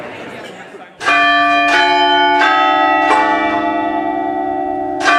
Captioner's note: chapel bell rings